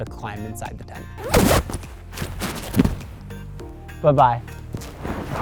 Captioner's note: zipping